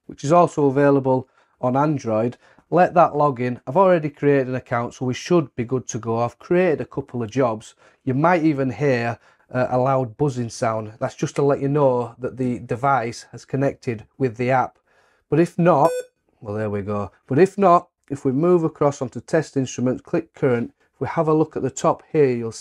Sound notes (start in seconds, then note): 15.8 device beeps